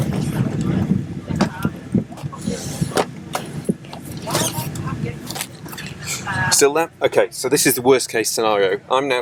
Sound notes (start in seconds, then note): 2.1 seat clicks